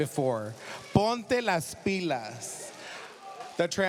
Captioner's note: speaking spanish